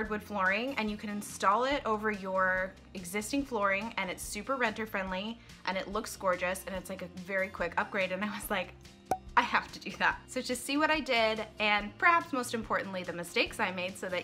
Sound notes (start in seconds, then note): 9.1 cork pop